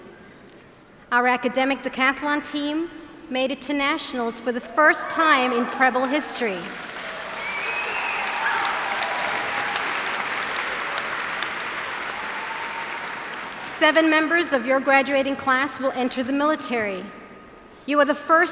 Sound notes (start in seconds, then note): 7.3 cheers and applause